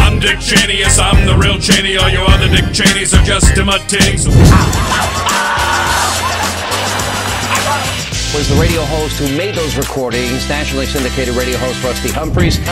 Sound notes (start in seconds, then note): 4.4 Sam Kinison screams; 4.4 audience laughs